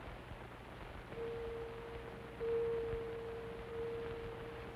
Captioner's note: clock chiming